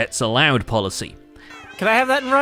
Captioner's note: overwhelming chorus of meowing; shouting over the noise